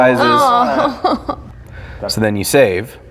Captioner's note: laughing; groaning